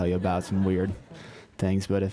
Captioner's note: laugh